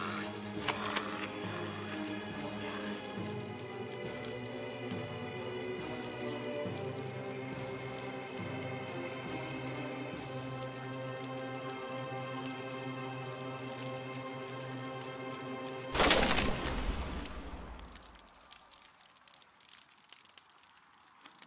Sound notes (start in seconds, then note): 1.1 shotgun clicks; 16.0 gunshot booming; 18.4 flames crackling